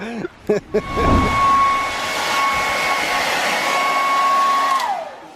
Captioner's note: laughing; hairdryer whirring